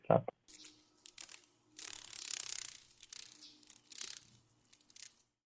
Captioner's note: sounds of a dragon fly